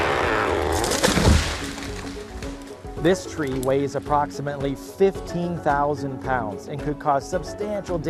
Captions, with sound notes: [cracking] [thud] This tree weighs approximately 15,000 pounds